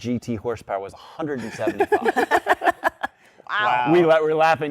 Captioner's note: laughter